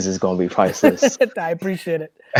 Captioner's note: laughs